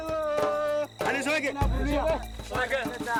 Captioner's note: Portuguese spoken audio